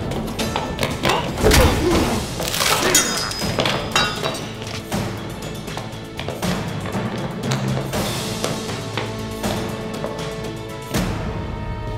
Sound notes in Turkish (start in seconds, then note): 1.0 Boyun kırma sesi; 11.6 Müzik - Aksiyon